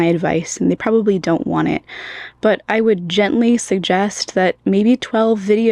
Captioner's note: inhale